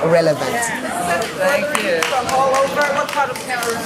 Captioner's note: applause